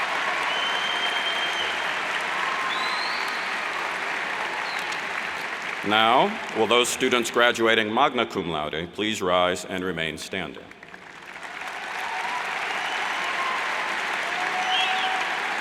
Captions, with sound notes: Now, will those students graduating Magna Cum Laude please rise and remain standing? (cheers and applauds)